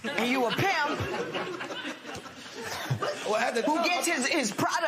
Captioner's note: laughter